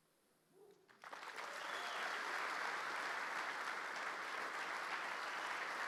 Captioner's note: audience cheering and applauding